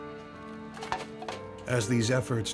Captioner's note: trash clinks